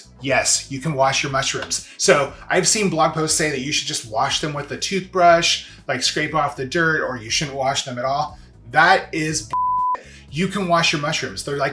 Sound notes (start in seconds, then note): 9.5 beep